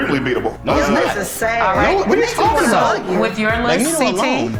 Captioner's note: overlapping chatter